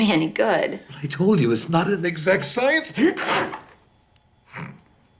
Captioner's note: sneezes; snorting